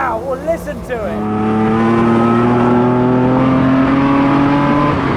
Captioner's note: engine roaring